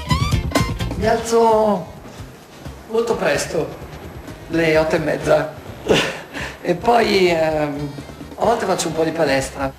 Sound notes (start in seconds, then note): 5.8 laughter